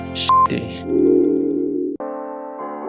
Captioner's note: disappearing sound